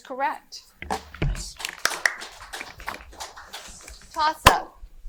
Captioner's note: audience applauding